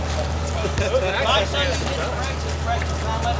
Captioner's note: laughing